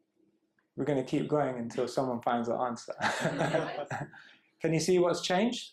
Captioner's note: laughter